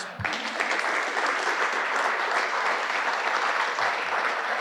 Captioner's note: audience applauding